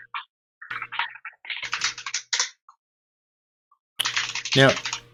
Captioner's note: keyboard keys clanking